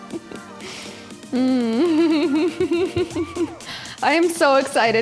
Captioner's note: humming excitedly